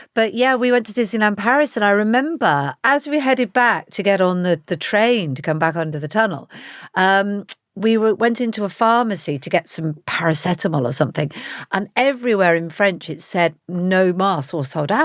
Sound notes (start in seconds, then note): none